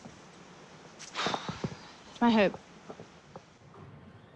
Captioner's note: sighs